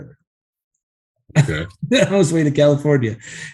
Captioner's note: laughs